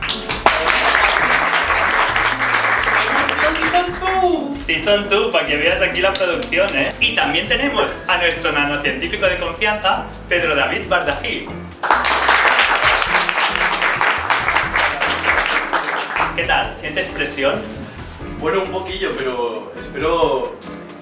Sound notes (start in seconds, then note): 0.0 applause; 11.8 applause